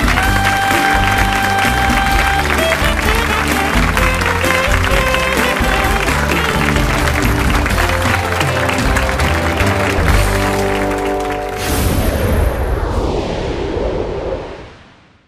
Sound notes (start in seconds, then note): 0.2 saxophone solo; 6.3 audience applauds